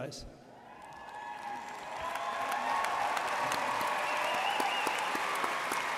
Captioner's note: audience cheering and applauding